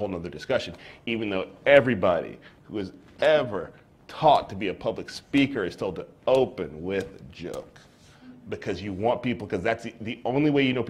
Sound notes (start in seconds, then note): none